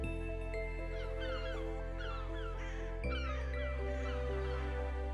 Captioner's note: seagulls squawk